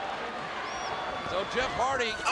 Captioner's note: audience cheering